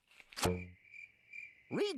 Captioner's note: crickets chirping